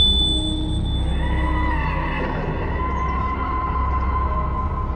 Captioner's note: bell jingles; screeching